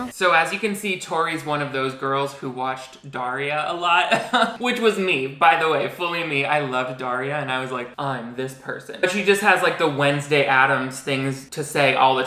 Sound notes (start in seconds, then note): 4.1 laughs